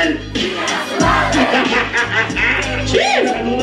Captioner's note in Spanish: Tren risa diabólica